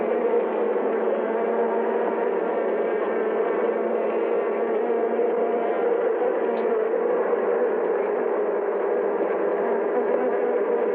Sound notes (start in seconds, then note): 6.9 bees buzzing